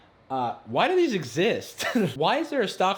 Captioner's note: laughing